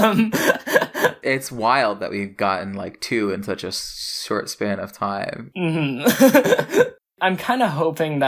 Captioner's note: laughs; laughs